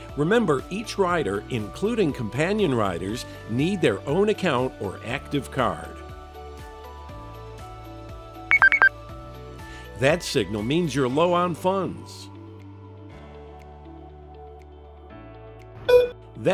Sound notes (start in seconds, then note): 6.7 high-pitched double beep; 12.6 mid-pitched beep